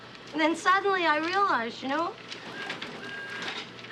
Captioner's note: none